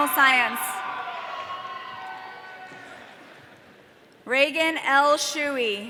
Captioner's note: audience cheering